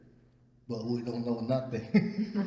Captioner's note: laughs